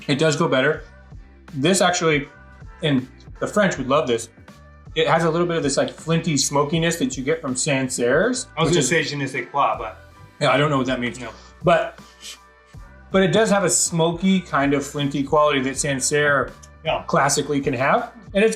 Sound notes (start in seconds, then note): 9.1 speaking in a foreign language